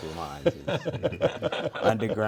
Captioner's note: all laugh